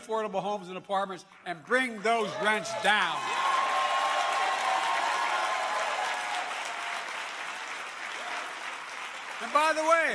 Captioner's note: applause